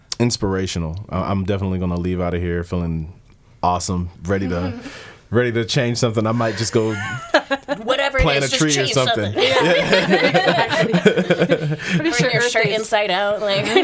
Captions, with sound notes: Inspirational, I'm definitely gonna leave out of here feeling awesome, ready to change something. I might just go plant a tree or something. (laughing) - Turn your shirt inside out.